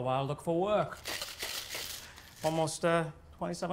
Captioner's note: coins rattling